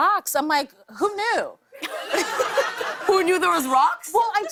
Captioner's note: laughter